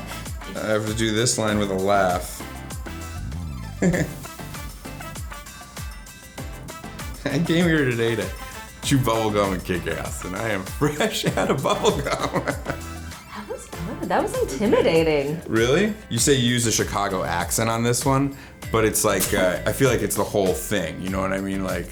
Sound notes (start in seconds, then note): 3.5 Adam laughs; 11.2 laughs